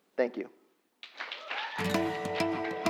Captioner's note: applause